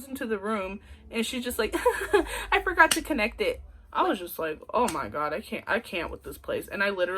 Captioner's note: giggling